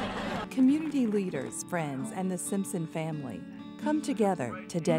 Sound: laughter

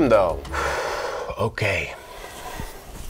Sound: sighs

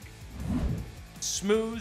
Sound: swoosh

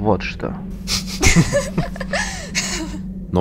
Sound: laughing

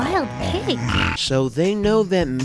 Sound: loudly snoring

